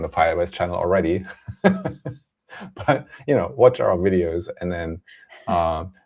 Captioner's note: laughs